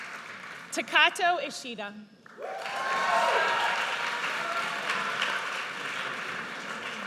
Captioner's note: audience cheers